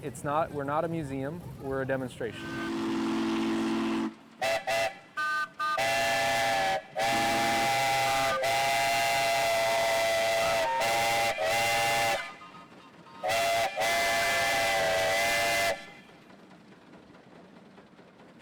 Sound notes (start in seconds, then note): 4.1 steam engine blowing